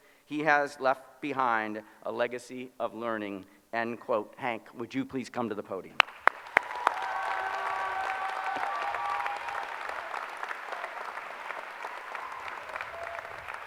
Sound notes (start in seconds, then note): 6.0 applause